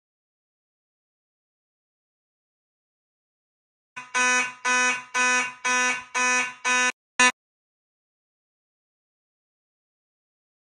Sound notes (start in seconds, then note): 4.0 pulsing buzzer sound